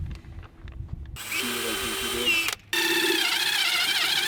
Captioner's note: drilling